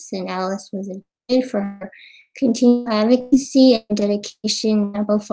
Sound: audio cutting out

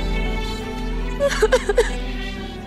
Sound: sobbing

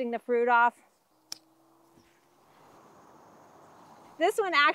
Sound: blade snips

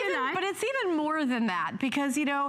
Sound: laughter

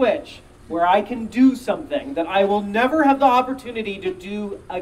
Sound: none

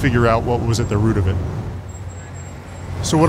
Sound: sound of cars honking

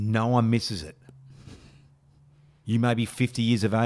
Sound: titters

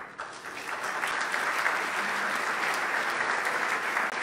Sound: loud clapping

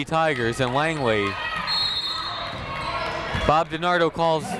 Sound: whistle tweeting

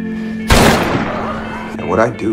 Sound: gunshot

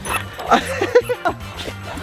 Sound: upbeat music; Willie pants; Rocky laughs

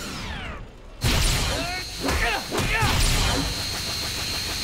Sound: grunting

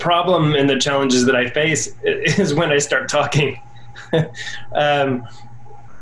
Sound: laughter

